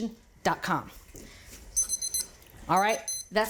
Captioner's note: timer beeps